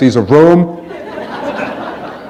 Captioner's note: laughter